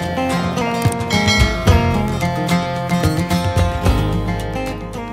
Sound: bell ringing; funky music

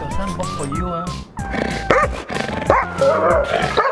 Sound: angry barking

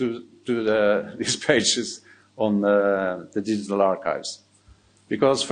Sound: chuckling

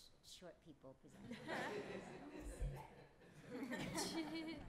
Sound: laughter

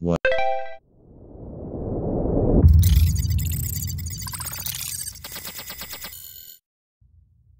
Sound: app activates; robot sounds

